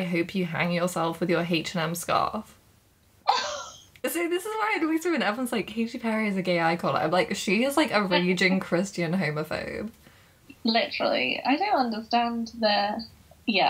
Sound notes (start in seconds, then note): 4.9 shocked gasp